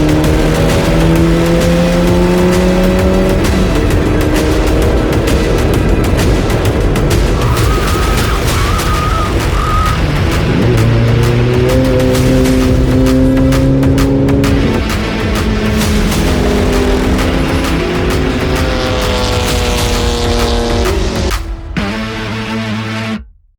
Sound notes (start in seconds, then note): 0.1 engine revving; 21.2 engine revving